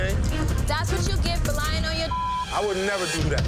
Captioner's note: beep